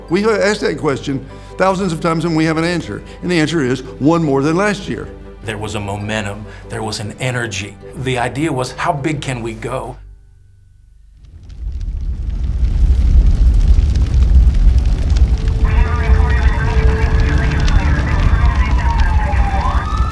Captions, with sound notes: We have asked that question thousands of times and we have an answer, and the answer is, one more than last year. - There was a momentum, there was an energy. The idea was how big can we go? (fire crackling) (emergency radio talking) (sirens wailing)